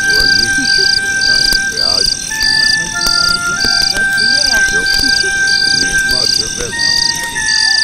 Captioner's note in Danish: baggrundsmumle samtale